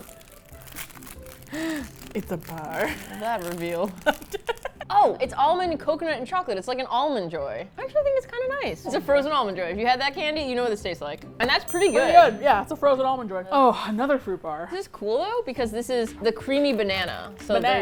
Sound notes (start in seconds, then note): 0.0 plastic crinkles; 1.4 gasps